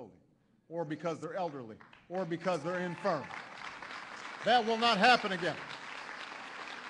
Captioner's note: applause